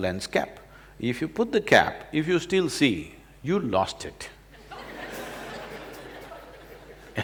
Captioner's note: laughter